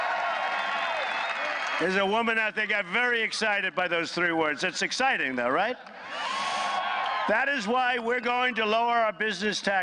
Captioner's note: applause